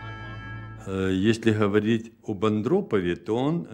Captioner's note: speaking Russian